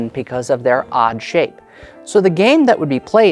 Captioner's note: none